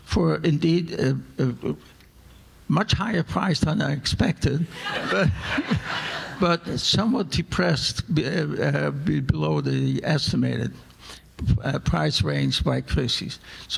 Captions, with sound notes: for indeed a much higher price than I expected. (audience laughing) But somewhat depressed below the estimated price range by Christie's.